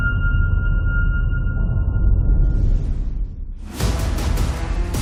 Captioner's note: dramatic sound